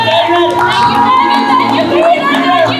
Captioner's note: everyone cheering